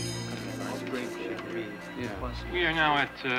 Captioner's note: chattering